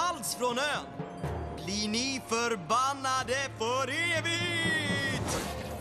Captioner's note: spooky voice